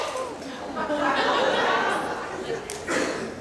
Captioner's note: laughter